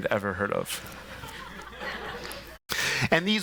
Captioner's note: laughter